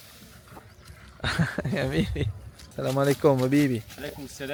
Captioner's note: laugh